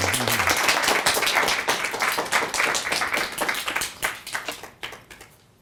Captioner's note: audience applauding